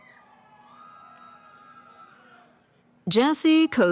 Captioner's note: cheering